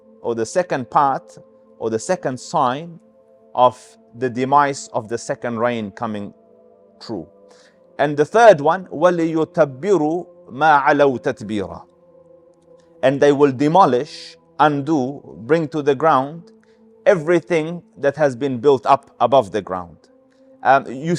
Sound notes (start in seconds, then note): 8.9 Arabic